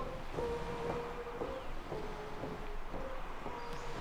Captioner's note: surf pounding